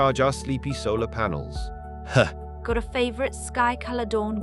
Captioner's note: chuckle